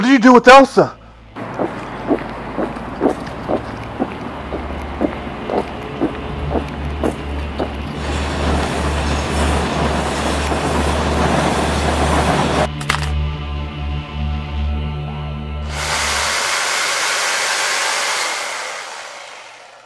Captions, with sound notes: What did you do with Elsa? (train engine roaring) (tense suspenseful music) (machine engine roaring)